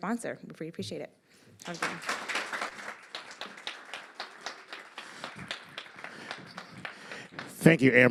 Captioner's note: applause